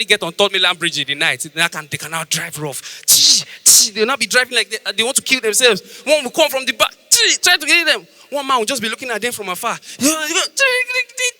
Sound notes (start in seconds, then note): 2.9 making Sound Effects